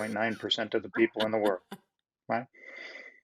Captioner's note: laughs